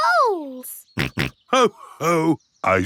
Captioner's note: snorts